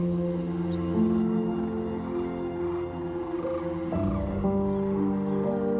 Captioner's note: crane calls